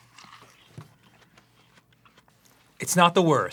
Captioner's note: pensive chewing